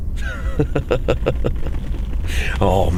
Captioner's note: laughs